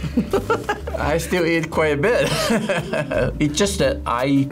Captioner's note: laughs